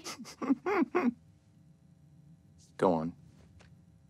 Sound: giggling

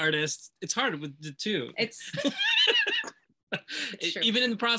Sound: laughs

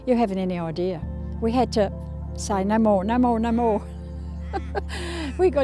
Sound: laughs

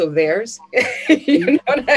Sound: laughs

